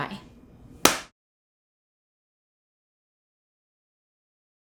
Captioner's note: hands clapping